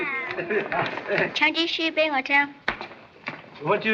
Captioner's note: speaking Chinese